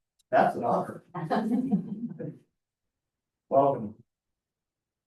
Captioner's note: board members laughing